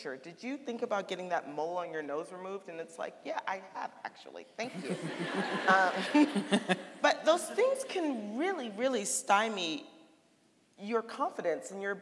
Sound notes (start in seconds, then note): 4.7 audience laughing; 4.7 laughing